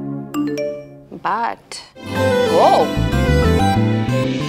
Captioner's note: Phone ringing